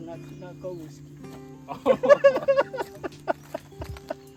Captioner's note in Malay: ketawa